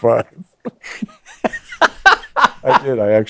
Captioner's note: laughs